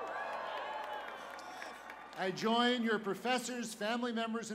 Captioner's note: cheers and applause